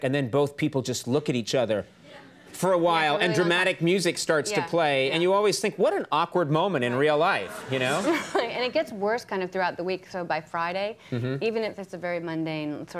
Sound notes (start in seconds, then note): 8.9 audience chuckling